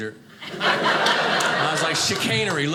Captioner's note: audience laughing